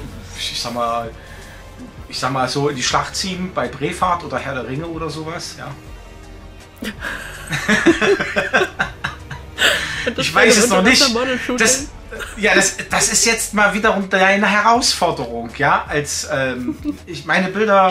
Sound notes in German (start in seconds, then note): 9.3 Lachen